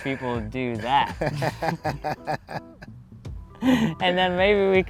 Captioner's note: laughter